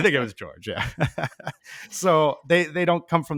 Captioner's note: chuckling